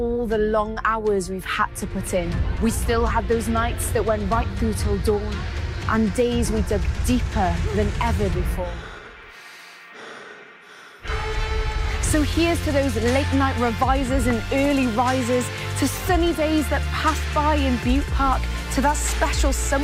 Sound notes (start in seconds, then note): 10.6 sighs